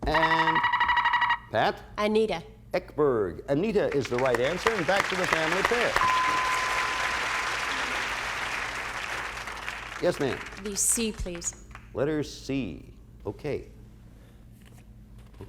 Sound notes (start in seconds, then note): 0.1 buzzer sounds; 5.9 bell rings; 6.0 applause